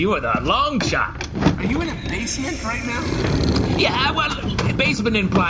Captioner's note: sliding around